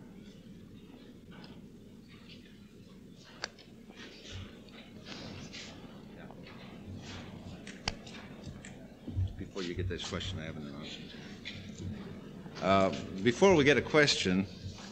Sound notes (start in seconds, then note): 2.4 pause; 3.9 shuffling in background